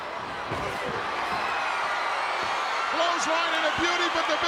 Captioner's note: crowd cheering